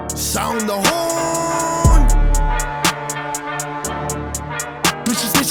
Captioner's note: warhorn sounding